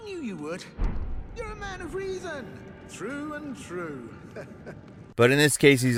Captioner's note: laughs